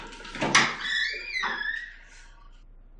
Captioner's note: squeaky door opens